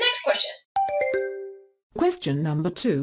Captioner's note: question ding